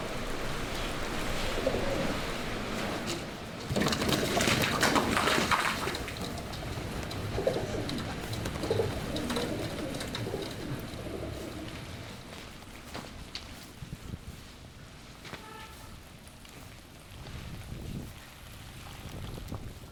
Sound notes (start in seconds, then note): 3.6 wings flapping; 6.6 pidgeons cooing; 15.3 horn beeps